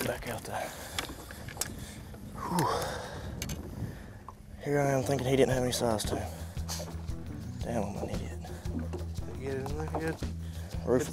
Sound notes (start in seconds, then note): 2.3 sighs